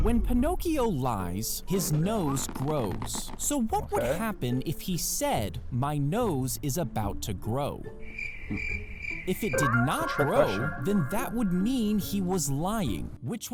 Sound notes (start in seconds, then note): 8.0 crickets chirping